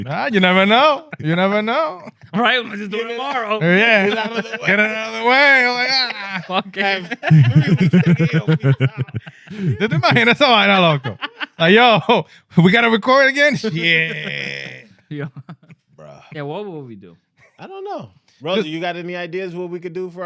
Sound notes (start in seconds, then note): 6.2 laughing; 6.2 speaking In Foreign Language